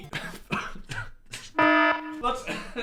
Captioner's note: alarm blares; Phil coughing